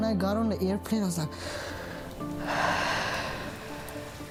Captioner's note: breathes in and out